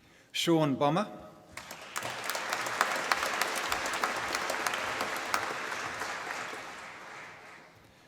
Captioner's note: applause